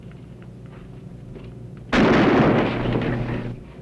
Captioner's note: gunshot